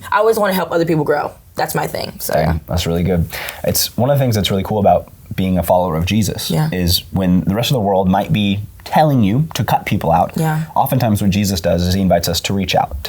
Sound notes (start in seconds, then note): none